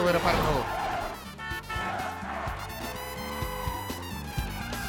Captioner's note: tires screeching, horns honking